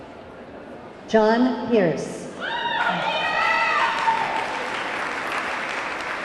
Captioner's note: audience clamoring